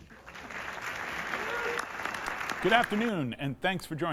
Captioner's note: crowd cheers and claps